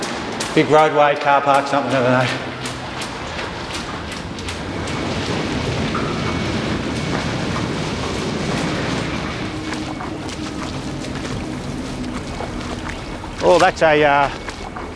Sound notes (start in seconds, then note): 3.4 heavy traffic; 3.4 wet, echoing footsteps; 6.0 industrial sounds